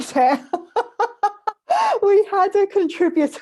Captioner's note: laughs